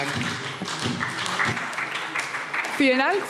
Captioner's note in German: Beifall SPD